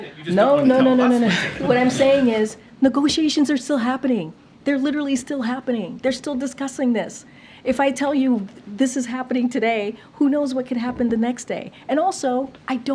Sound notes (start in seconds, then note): 1.2 laughter